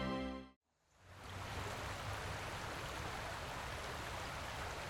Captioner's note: water whooshing